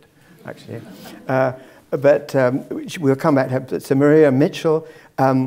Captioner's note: laugh